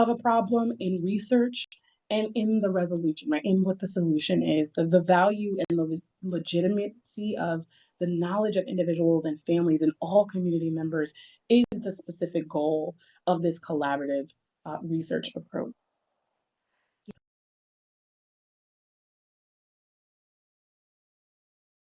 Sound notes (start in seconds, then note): 17.3 pause